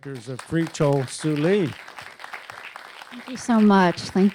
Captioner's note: audience applauds